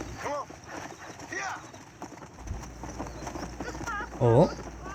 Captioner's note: horse galloping and unknown